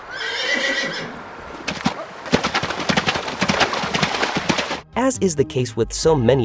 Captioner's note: whinnying